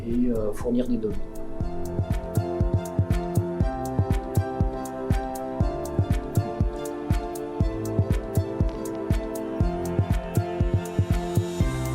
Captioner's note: speaking French